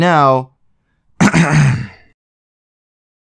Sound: clears throat

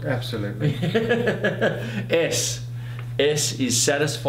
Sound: laughs

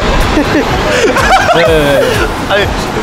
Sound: suddenly cracks up

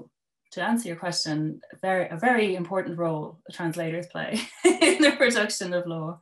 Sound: laughter

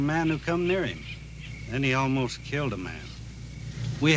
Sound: none

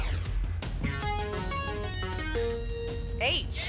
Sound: futuristic sounds

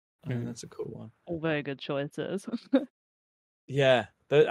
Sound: laughs

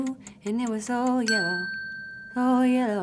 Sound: bell dinging

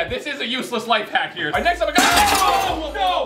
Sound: crash

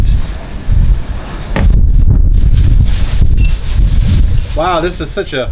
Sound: wind blowing

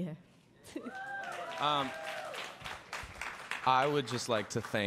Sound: audience cheers

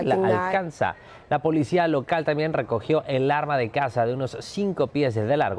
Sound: HABLA EN INGLéS

